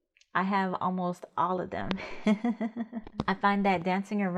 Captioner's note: laughs